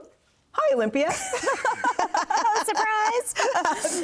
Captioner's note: laughing